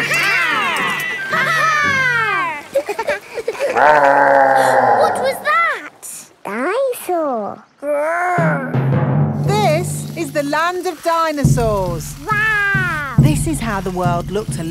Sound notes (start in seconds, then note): 3.1 gasps; 3.3 laughing; 3.7 growling